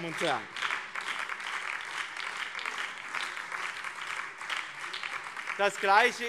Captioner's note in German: Beifall BÜNDNIS 90/DIE GRÜNEN und Freie Demokraten